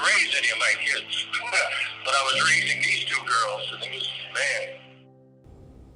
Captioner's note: laughs